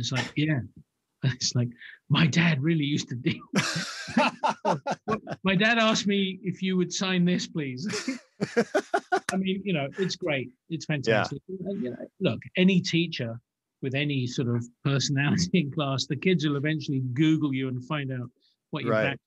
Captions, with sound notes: really used to really dig you. My dad asked me if you would sign this, please." (laughs) I mean, you know, it's great. It's fantastic. Look, any teacher with any sort of personality in class, the kids will eventually Google you and find out what what your background is. I always had this thing when I